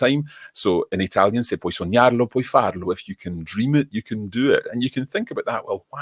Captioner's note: italian 00:20:23